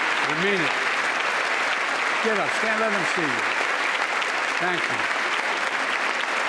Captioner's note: applause